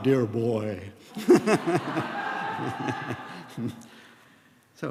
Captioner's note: laughter